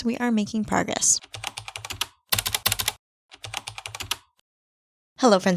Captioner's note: typing